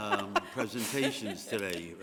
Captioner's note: laughter